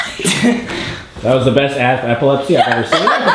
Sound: voiceover; laughter

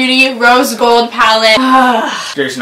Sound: sighs

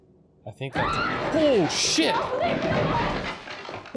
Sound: Mia screaming

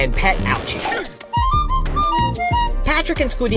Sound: whistling

